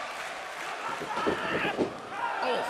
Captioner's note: fans chanting